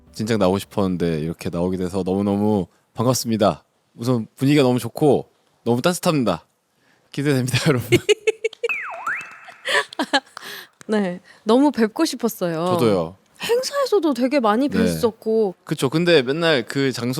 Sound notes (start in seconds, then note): 9.0 round of applause in anticipation